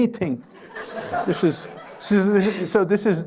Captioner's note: laughter